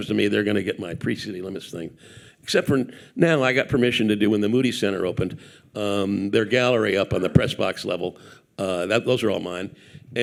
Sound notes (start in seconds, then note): none